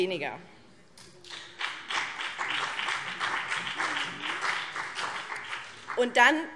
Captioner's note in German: Beifall BÜNDNIS 90/DIE GRÜNEN und vereinzelt CDU